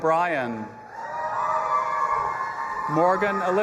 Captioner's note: audience applauding and cheering